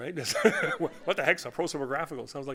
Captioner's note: laughter